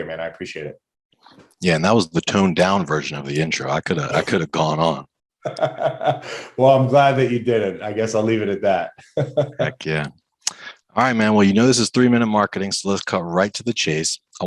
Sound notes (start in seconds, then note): 5.4 laughs; 8.9 laughs